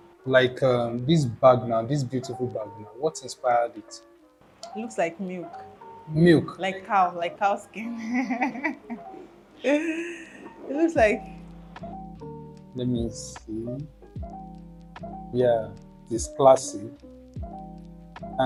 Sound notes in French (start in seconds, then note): 8.0 rires